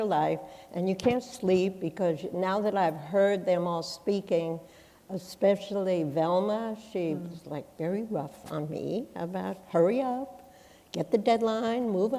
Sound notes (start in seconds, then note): none